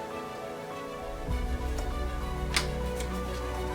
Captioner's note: flick and click